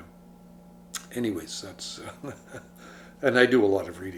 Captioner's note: chuckles